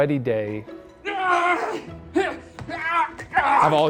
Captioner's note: yelling